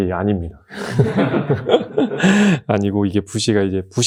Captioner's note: laughter